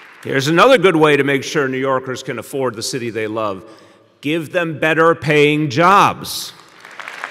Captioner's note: applause